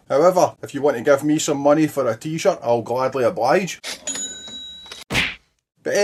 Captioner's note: kaching